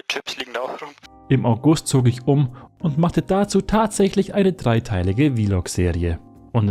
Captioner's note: voiceover